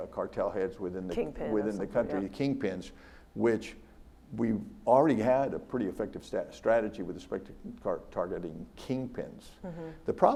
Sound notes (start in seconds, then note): none